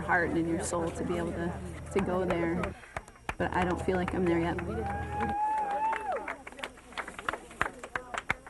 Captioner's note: applause